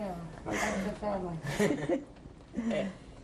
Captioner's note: laughter